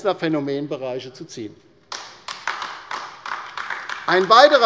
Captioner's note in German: Beifall bei der LINKEN